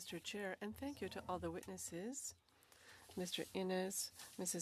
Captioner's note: speaking French